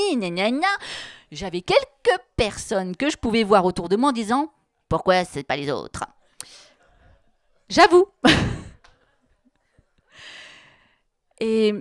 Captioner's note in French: elle rit